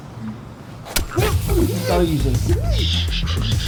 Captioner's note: muffled crying